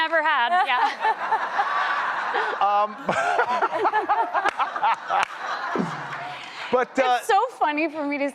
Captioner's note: laughter